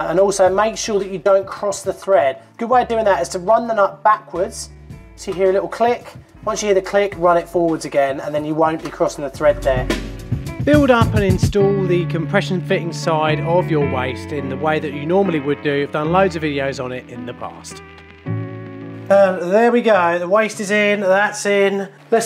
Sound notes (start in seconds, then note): 10.8 voiceover